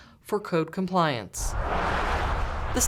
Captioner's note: sounds of cars driving